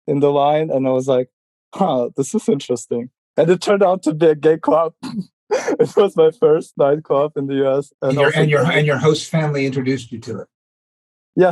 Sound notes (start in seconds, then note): 5.5 laughing